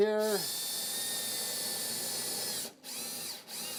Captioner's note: drill whirring